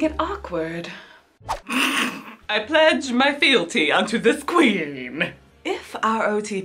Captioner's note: laughs